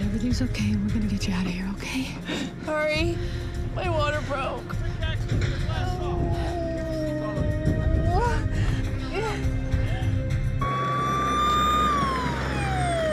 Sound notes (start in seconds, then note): 5.6 groans